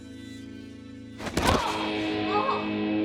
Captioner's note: Joe groans